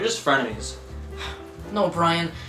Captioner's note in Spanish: suspiro